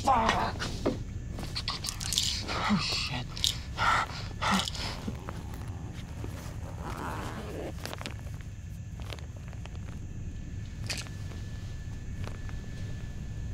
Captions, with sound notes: - Fuck. Oh shit. (zipping sound)